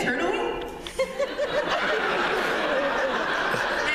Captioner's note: laughter